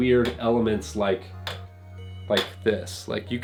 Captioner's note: clicking